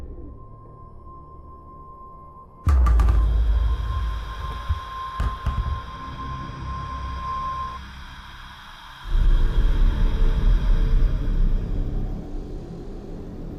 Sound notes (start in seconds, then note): 0.4 gentle tense music; 2.7 light sphere clattering; 5.9 soft tense music